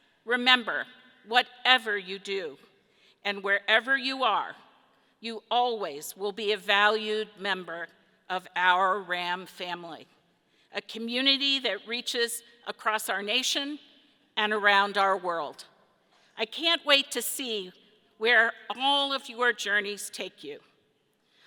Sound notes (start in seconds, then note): none